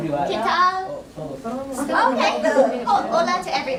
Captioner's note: Spanish spoken